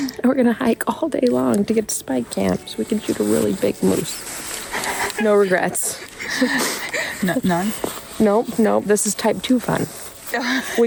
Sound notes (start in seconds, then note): 0.0 chuckles; 4.6 laughs